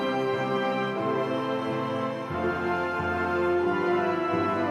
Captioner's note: none